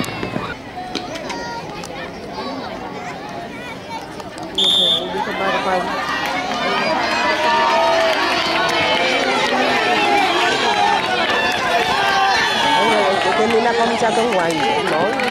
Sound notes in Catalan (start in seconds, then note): 0.4 Xiulet; 5.6 La gent anima